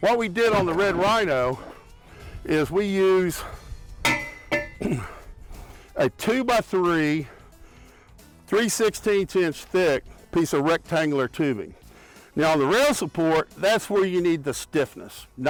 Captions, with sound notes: What we did on the Red Rhino is we use (metal clangs) (grunts) a two by three 3/16 inch think piece of rectangular tubing. Now on the rail support that's where you need the stiffness.